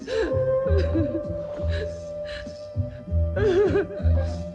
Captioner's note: Kinojo sobbing